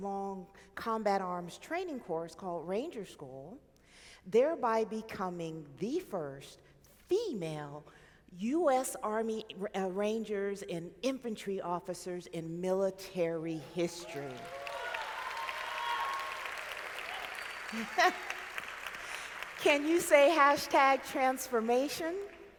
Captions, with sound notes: Combat Arms training course called Ranger School. There by becoming the first female US Army Rangers and Infantry Officers in military history. (audience clapping) (laughs) Can you say Hashtag Transformation?